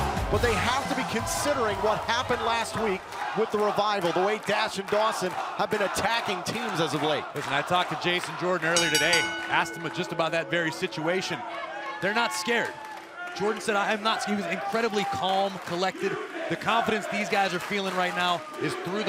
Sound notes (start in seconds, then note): 11.7 bell ringing